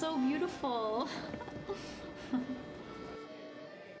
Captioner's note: laughter